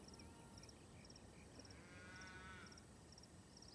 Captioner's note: cows lowing